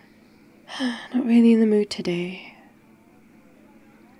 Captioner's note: sighs